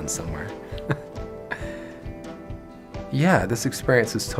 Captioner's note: laughing